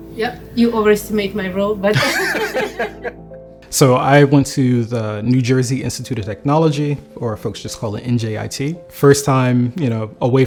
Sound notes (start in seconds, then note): 1.9 laughter